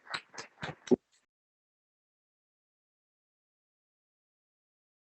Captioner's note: applause